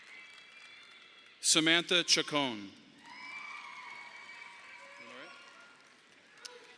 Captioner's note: audience applauding